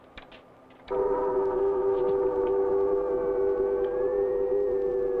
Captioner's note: ominous howling